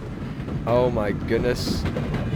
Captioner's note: train SFX